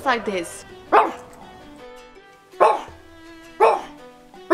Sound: more bork

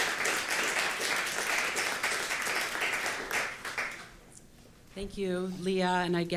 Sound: applause

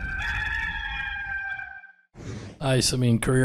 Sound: rooster crows

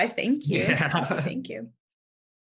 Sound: laughter

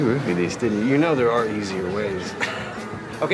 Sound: chuckles

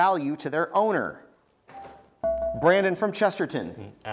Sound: buzzer beeps

